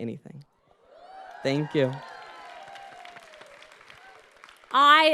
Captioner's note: audience cheering